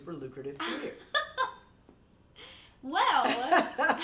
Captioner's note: laughs; laughing